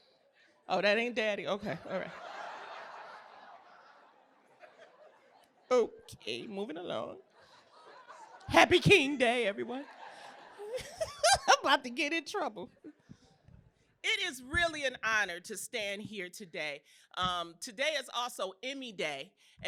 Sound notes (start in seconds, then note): 1.7 laughter; 9.6 laughter